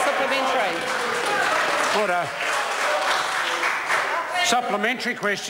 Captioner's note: members applaud